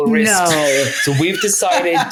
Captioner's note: laughing